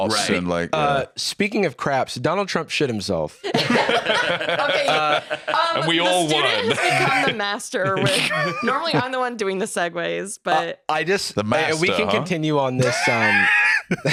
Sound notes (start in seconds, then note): 3.4 all laughing